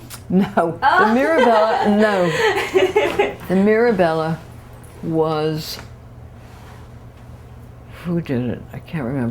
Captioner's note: laughter